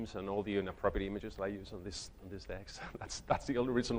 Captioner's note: chuckles